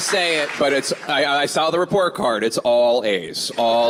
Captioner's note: applause